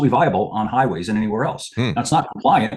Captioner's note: laughs